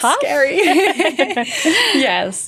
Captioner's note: both laughing